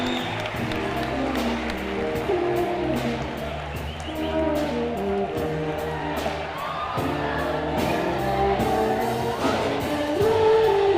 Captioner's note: cheering and applause